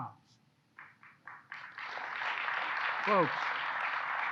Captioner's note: applause